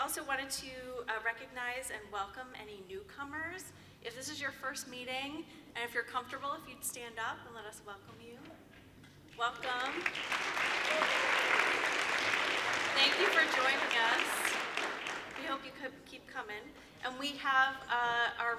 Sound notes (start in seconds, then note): 9.3 applause